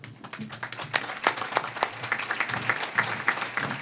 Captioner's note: audience claps